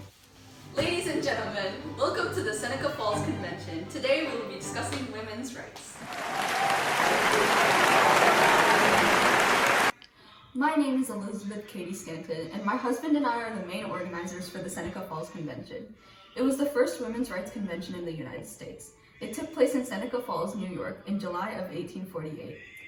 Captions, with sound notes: Ladies and Gentlemen welcome to the Seneca Falls Convention. Today we will be discussing women's rights [applause] My name is Elizabeth Cady Stanton and my husband and I are the main organizers for the Seneca Falls Convention. It was the first women's rights convention in the United States. It took place in Seneca Falls, New York, in July of 1848.